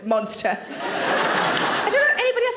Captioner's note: audience laughing